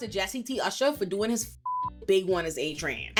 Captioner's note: beep